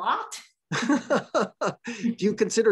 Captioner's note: chuckles